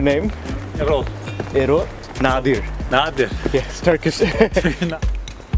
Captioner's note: laughs